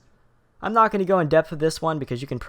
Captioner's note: voiceover